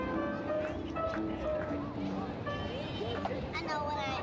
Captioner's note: outdoor sounds and conversations